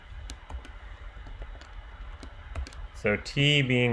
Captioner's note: keyboard clicking